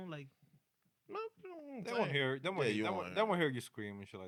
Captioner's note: speaking In Foreign Language